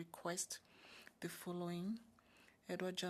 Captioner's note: speaking French